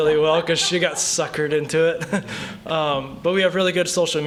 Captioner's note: laughter